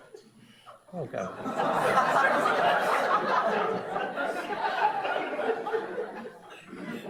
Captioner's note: audience laughs